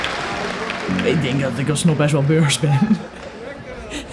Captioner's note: laughs